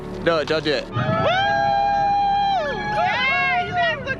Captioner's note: cheering